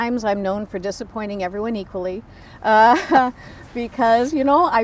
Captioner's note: laughs